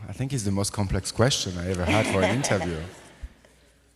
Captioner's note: laughs